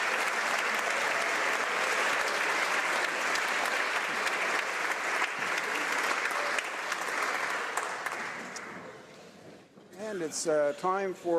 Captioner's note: applause